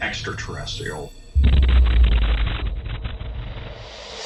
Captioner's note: thunderous boom